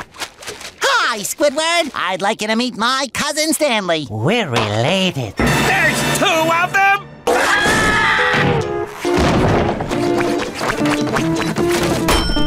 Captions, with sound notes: Hi, Squidward. I'd like you to meet my cousin, Stanley. We're related. There's two of them?! [screaming]